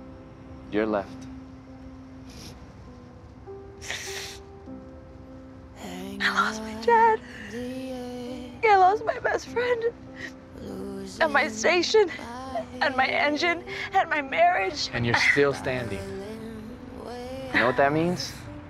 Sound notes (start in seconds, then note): 3.8 sobs; 5.9 voice breaking